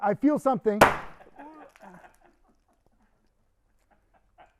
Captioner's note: tube popping; crew laughing; producer laughing